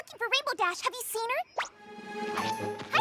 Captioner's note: zip! zip!